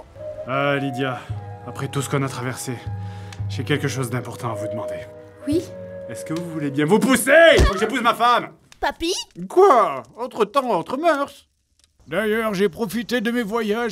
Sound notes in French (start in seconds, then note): 7.6 cri